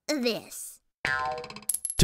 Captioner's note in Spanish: sonidos de resortes